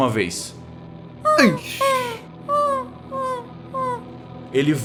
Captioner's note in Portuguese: canto do urutau